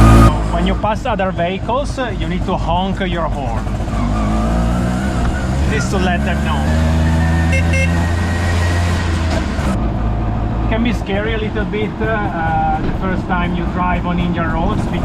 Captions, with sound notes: When you pass other vehicles you need to honk your horn. [engine sound] Just to let them know. [horn honking] [engine sound] It can be scary a little bit the first time you drive on Indian roads,